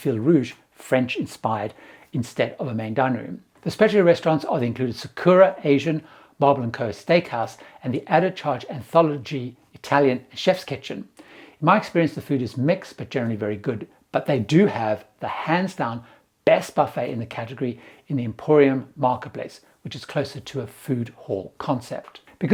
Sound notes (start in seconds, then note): 9.7 Italian